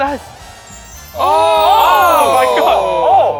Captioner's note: group gasping